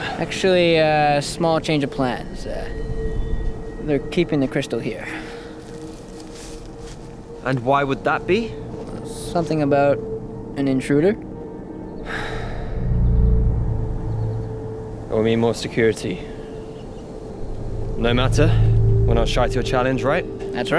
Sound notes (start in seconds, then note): 12.0 Adrian sighing